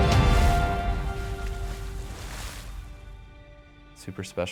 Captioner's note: water splashing